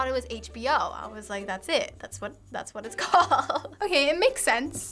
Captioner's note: laughs